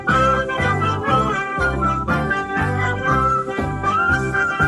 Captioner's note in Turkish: Düşman askerleri ses çıkardı